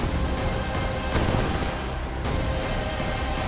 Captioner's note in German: Schüsse